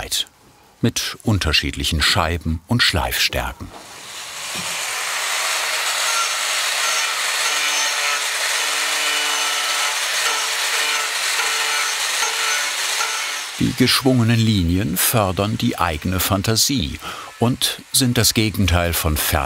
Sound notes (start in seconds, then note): 5.8 machine noise